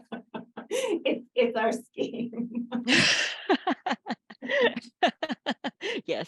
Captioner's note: laughter; laughter